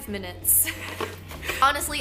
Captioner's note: laughing